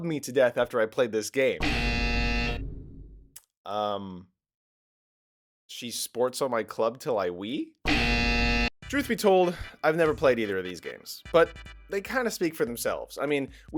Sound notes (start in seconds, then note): 0.0 incorrect buzzer; 7.2 incorrect buzzer